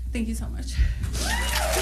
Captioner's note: applause